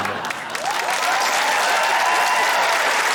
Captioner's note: laughter; cheering, applause